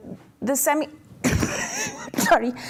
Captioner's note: coughs